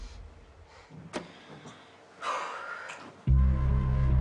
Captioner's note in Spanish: Suspiros